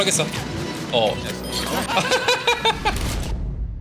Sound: laughs

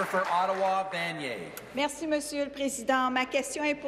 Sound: applause

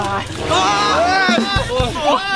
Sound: screaming from coldness

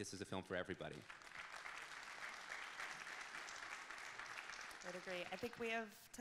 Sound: audience clapping

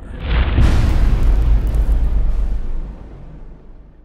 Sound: impact

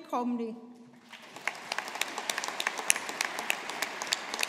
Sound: audience applauding

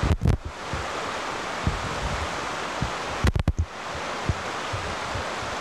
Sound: none

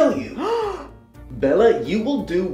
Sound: gasp

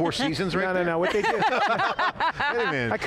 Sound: laughing

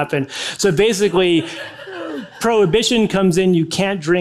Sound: audience laughing

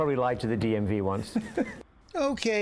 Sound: laughter

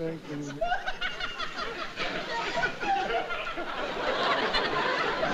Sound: cackles

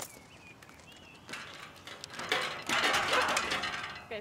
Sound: gate rattles

